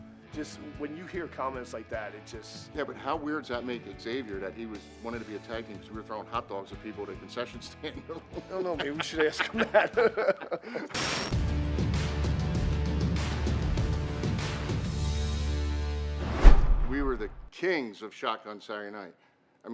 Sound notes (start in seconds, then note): 9.9 both laugh; 11.3 intense music begins